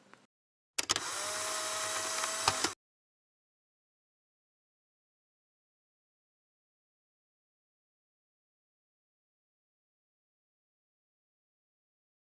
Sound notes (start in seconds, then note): 0.8 Sound of Polaroid camera